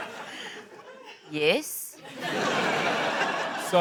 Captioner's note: laughter